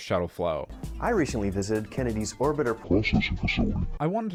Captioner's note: demoic voice